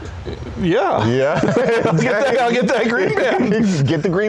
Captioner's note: laughs